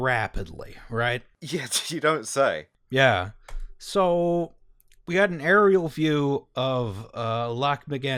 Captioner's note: laughter